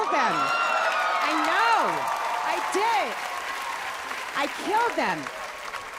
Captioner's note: audience cheering; audience applauding